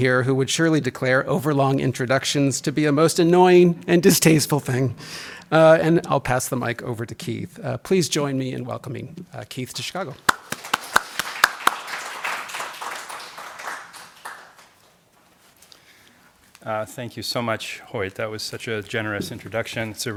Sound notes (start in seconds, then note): 10.2 audience applauding